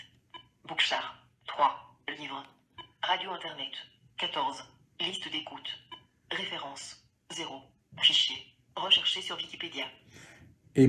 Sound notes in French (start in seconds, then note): 0.0 Voix de synthèse; 2.7 l'appareil émet un bip; 5.1 l'appareil émet un bip